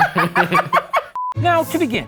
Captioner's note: laughing; beeping